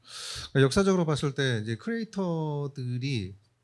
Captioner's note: speaking korean